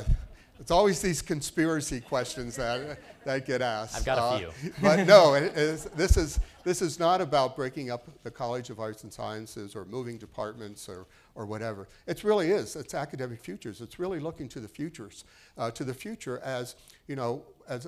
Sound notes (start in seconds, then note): 5.0 laughing